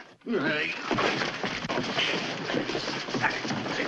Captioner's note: grunting